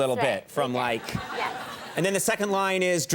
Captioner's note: audience laughing